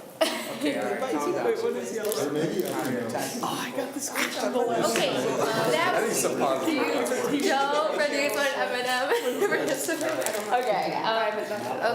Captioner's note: students talk amongst themselves